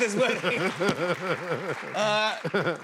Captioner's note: laughs